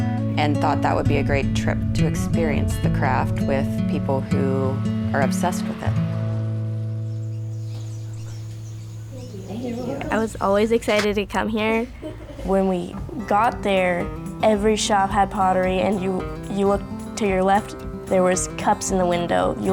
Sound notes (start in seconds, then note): 6.8 birds chirping